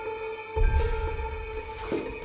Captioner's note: distant bell